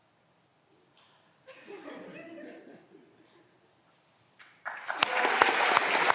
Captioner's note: audience members laughing